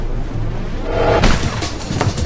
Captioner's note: time start sound